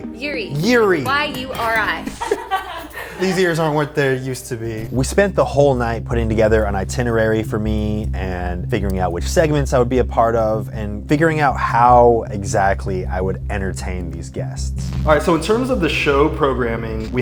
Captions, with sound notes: -Yuri. -Yuri? -Y-U-R-I. [laughter] -These ears aren't what they're used to be. We spent the whole night putting together an itinerary for me and figuring out which segments I would be a part of and figuring out how exactly I would entertain these guests. All right. In terms of the show programming,